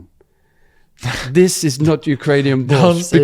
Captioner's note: laughs